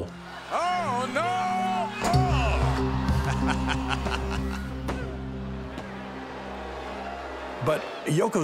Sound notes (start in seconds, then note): 5.5 laugh